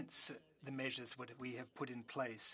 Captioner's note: speaking French